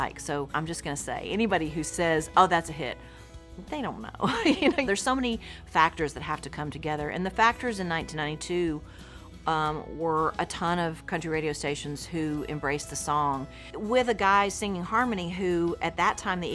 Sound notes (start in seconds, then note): 4.3 laughs